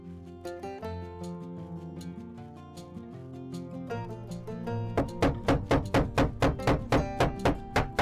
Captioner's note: knocking